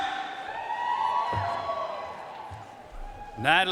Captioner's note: audience cheering and applauding